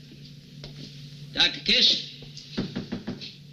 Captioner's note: door knocking